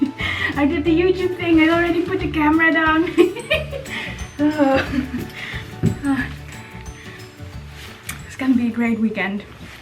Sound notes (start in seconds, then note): 3.0 giggling